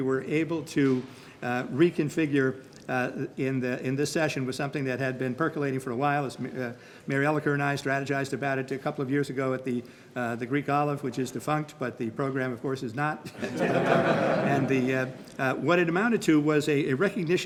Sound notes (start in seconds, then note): 13.3 group laughing